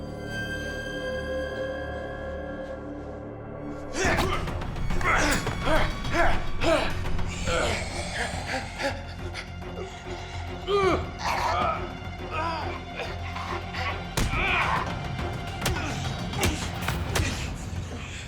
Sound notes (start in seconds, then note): 7.7 struggling; 15.4 punching